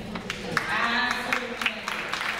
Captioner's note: audience applauds